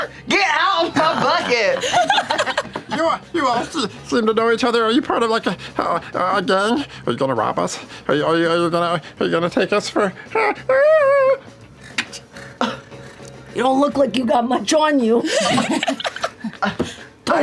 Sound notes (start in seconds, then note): 0.0 sighs; 11.1 whines; 15.2 laughter